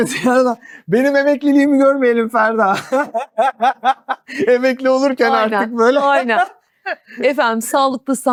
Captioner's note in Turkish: kahkaha